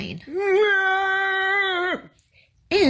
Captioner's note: man shouting comically